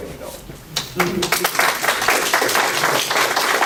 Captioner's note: applause